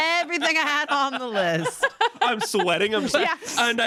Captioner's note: everyone laughs